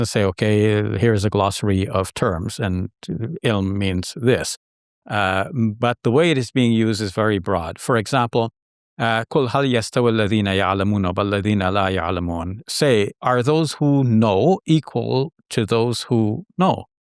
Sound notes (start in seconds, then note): 8.3 speaks foreign language